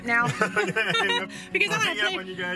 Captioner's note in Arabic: ضحك